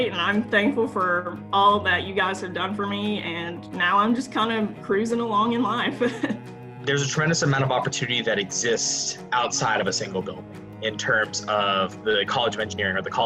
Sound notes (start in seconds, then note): 5.9 laughs